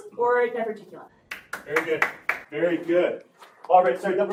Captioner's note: clapping